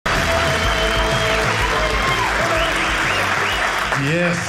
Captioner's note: audience cheering